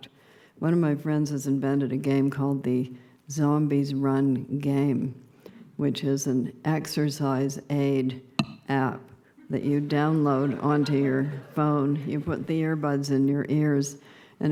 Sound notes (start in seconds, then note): 9.8 subdued laughter